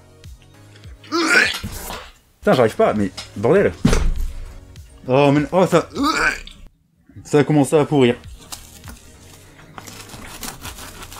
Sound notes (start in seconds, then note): 0.7 retches; 6.0 retches